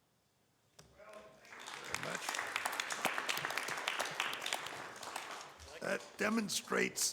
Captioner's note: audience applauds